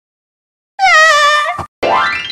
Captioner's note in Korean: 울음